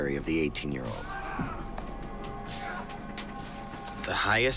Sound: shouts of pain continue in the distance

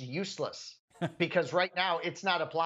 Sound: laugh

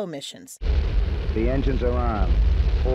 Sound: rocket engines roaring

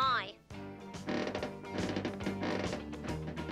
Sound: creaking

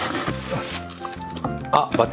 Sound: moaning

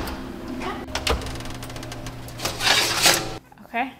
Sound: metal clanking; oven door opens

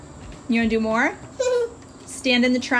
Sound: babbling

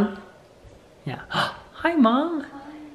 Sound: gasps

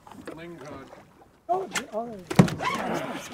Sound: water lapping

